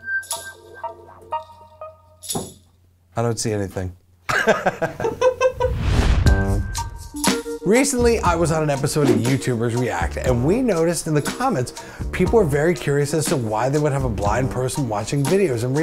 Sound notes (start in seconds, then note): 4.3 chuckles; 4.3 FBE laughs; 5.9 tranquil funk music